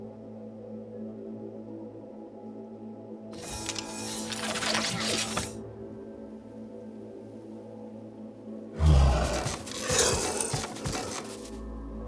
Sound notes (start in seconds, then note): 3.4 metal clanking; 8.7 growling